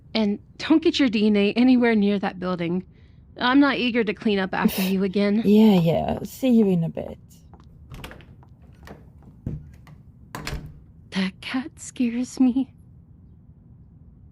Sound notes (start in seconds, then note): 8.7 rushed Footsteps; 10.3 door Opening/Closing